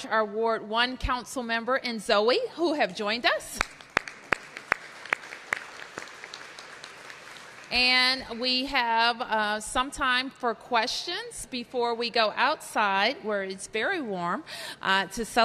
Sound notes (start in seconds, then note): 3.5 applause